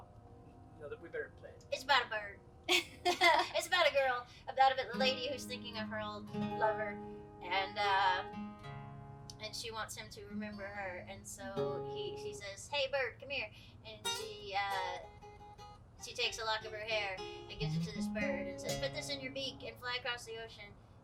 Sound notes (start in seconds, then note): 2.7 laughs